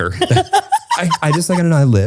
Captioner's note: laughs